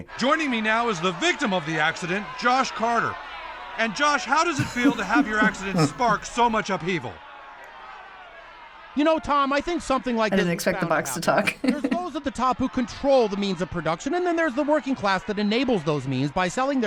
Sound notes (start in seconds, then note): 10.3 chuckles